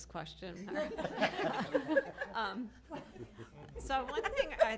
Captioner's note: laughter